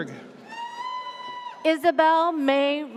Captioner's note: audience cheers